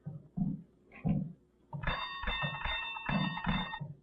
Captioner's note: doorbell ringing